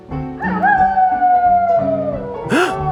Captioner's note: wolf howles; gasps